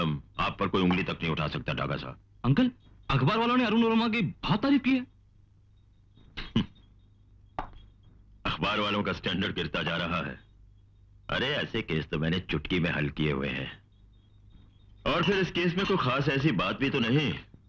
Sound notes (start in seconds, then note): 6.3 chuckles